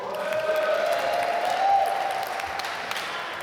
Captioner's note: applause